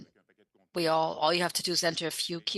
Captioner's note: speaking French